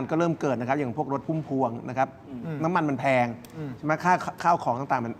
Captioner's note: clears throat